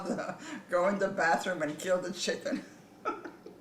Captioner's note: laughs